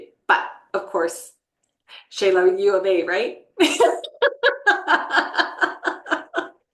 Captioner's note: laughs